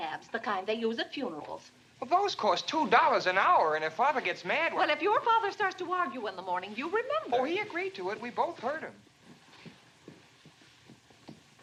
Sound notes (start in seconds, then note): none